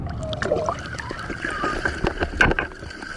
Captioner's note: sound: breaking plane of water